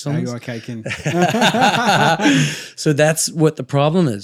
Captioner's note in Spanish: reír